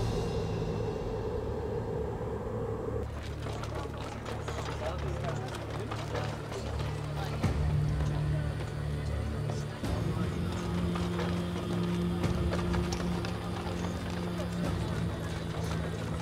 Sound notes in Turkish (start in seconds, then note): 0.0 Rüzgâr sesi; 3.6 At arabası sesi; 8.3 Pazar ortam sesi